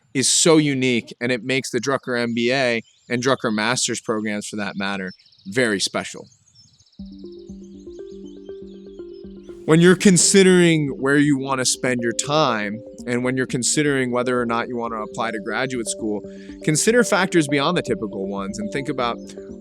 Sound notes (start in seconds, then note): 6.7 birds chirping; 6.7 bright gentle music